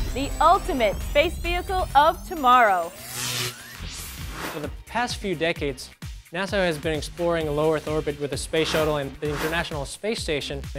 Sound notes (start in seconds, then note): 2.8 sound Effects